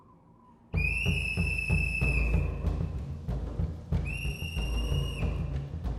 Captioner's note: whistle blows; suspenseful percussive music